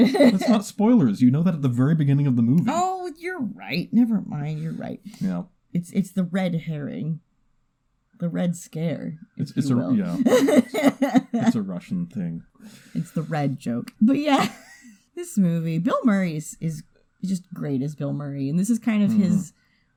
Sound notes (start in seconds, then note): 8.5 mutters at bad joke attempt; 9.7 laughs; 11.0 stammers to help cover; 14.2 laughs